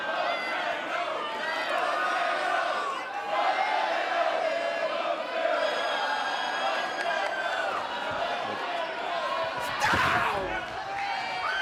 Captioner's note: fans chanting